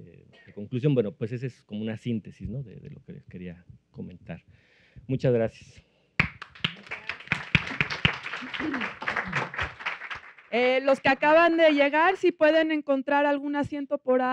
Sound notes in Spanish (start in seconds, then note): 6.2 Aplausos